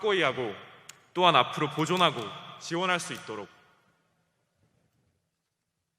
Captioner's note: speaking foreign language